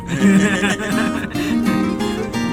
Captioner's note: laughs